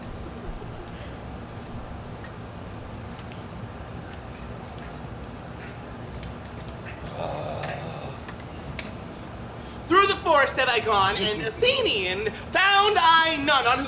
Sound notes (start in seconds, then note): 7.0 Puck groans